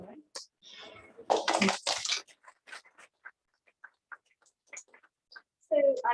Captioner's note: applause